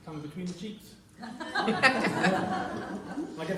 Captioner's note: laughter